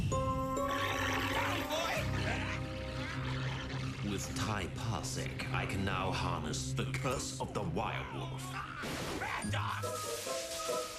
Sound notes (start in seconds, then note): 1.8 growling